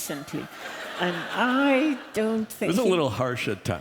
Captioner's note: laughter